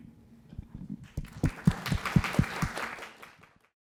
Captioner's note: applause